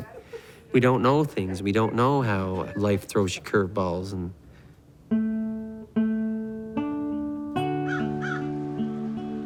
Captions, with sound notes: But we don't know things. We don't know how life throws you curveballs. (gentle guitar music) (birds cawing)